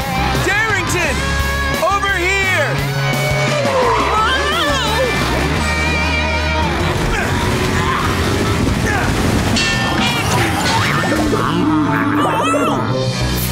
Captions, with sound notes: Darrington, over here! Whoa! [grunting] [groaning]